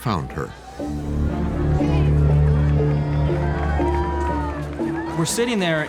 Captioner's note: people cheering and shouting